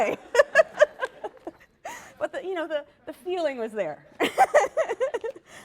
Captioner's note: laughter; laughs